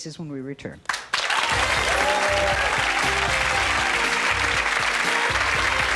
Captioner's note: audience applauding; upbeat music